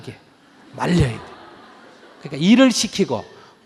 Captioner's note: audience Laughter